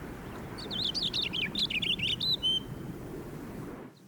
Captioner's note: bird singing